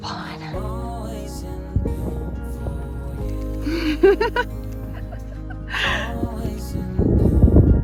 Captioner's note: camera shutter noises and laughter; sounds of wind